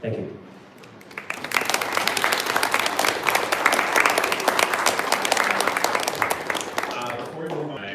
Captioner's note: applause